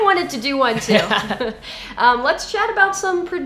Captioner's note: laughs